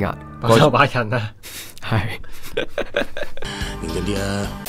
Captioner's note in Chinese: 笑～